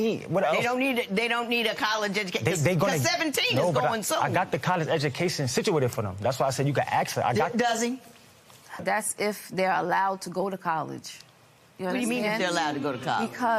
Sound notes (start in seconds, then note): none